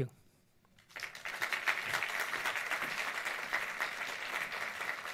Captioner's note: audience applauds